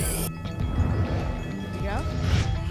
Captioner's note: alarms; ticket dispenser sound; whoosh